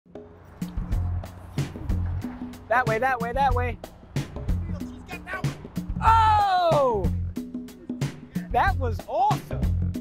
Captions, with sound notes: (relaxing music) - That way, that way, that way. (yelling in background) Oh!! that was awesome!